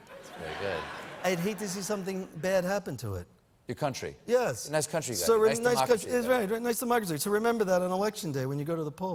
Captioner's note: trump voice